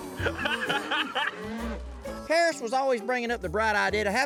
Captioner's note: laughter